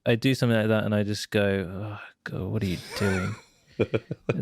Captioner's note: chuckles